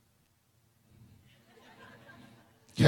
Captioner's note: laughter